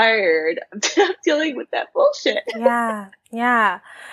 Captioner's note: laughs